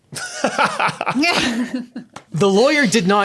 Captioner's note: laughs